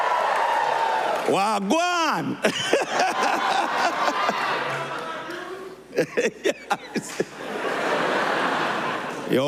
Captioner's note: cheers and applause